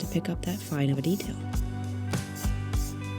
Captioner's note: spray can spritzes